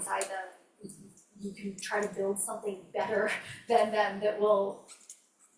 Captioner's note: laughs